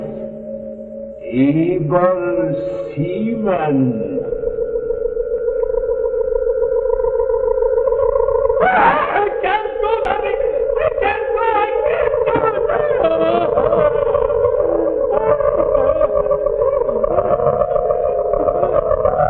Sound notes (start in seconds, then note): 16.2 hysterics